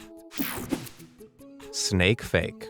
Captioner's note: slide whooshes